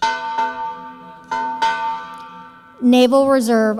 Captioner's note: bell dings